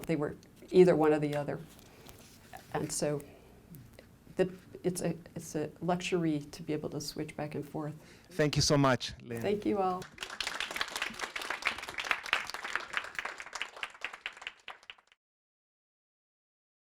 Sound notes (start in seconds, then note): 9.9 applause